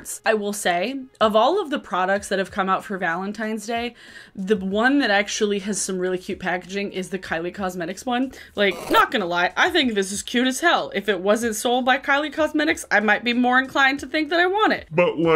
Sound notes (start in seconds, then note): 9.1 static squeals